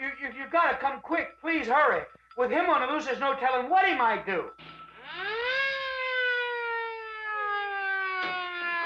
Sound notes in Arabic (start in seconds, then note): 4.9 صفارة الإنذار تصرخ